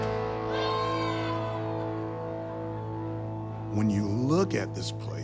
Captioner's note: cheering